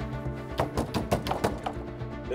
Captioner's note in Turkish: Kapı Çalıyor